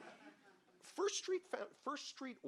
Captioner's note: audience laughing